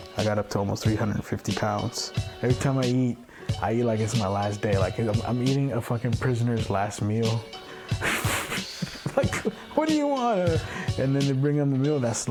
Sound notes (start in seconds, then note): 8.0 laughs through the shame